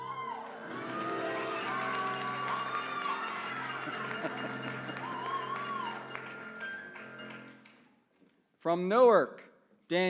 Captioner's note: applause